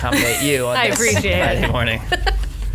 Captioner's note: laughs